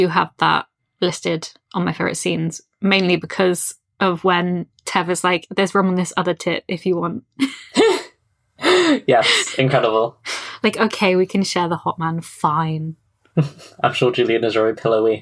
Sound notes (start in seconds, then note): 8.6 laughs